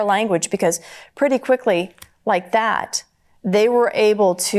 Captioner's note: snaps fingers